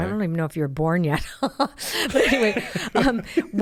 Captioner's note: laughs